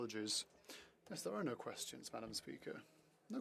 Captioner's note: speaking french